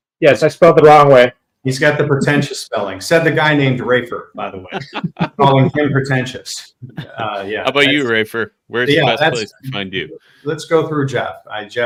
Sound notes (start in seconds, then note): 4.4 laughs